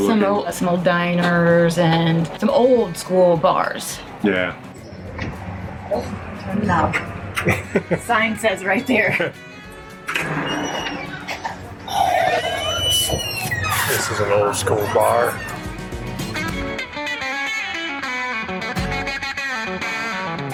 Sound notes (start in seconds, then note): 7.3 laughing; 11.3 gasps; 16.1 upbeat country music